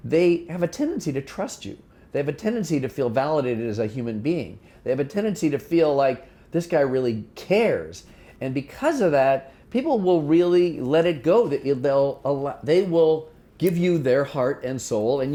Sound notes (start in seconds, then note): none